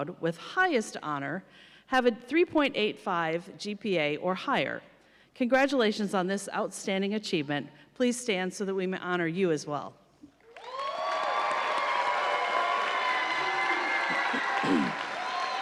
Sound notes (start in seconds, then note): 10.4 audience applauding